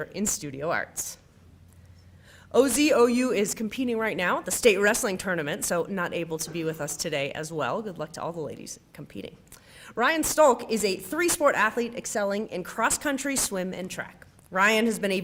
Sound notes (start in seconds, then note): none